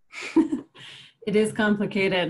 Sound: laughs

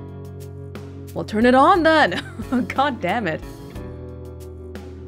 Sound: chuckles

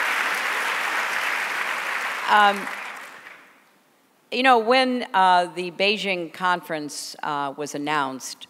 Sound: applause

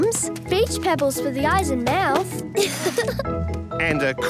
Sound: laughing

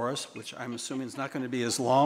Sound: attendees laughing

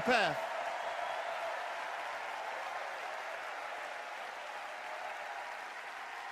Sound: cheers and applause

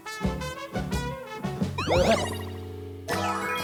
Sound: urgh

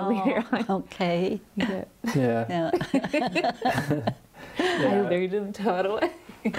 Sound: laughter

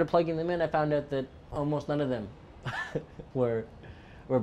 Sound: chuckles

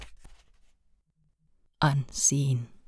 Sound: pageturning sound

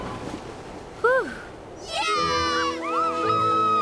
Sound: cheering

